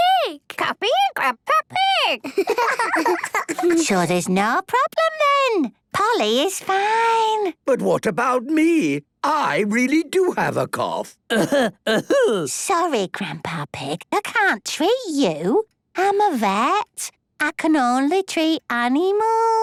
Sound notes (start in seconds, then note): 2.2 giggling; 11.2 coughing